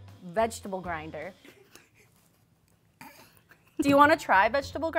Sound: snickering

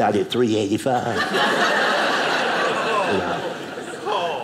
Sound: audience laughing

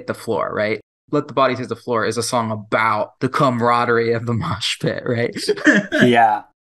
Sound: laughs

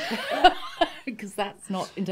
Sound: laughing

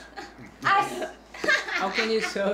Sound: laughing

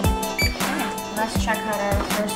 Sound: lock beep

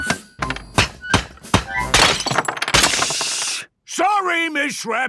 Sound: banging, crashing

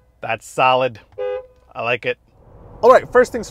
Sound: truck honking

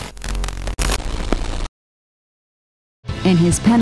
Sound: static buzzes

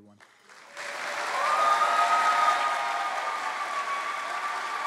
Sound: cheering

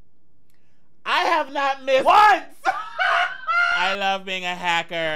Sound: laughing

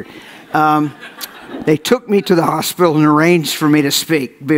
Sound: audience laughs

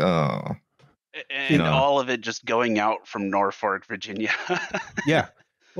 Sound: laughs

